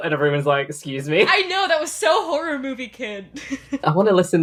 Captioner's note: laughs